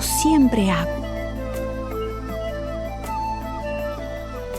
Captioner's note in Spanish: pájaros trinando